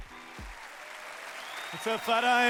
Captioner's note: applause